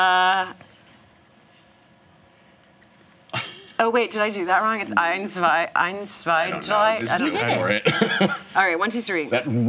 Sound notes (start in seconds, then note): 5.1 counts in German